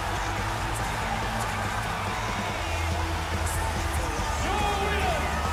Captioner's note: cheers and applause